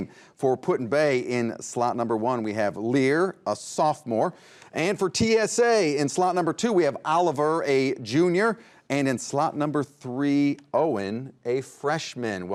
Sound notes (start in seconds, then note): none